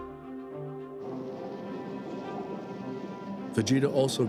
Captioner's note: wind blowing